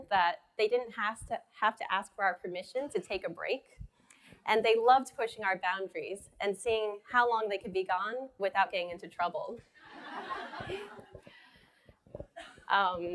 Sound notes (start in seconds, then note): 10.0 laughing